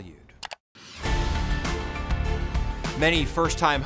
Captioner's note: mouse clicks; serious music